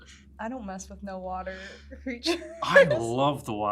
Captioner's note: chuckles